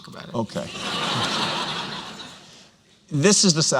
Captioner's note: laughter